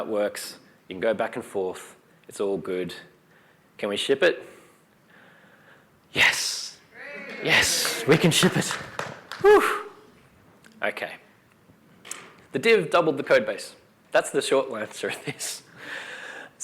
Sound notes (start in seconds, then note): 6.9 cheering